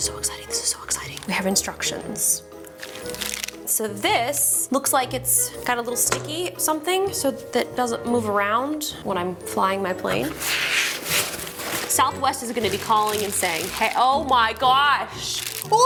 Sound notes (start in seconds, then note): 2.6 plastic rustles; 10.2 packaging rustles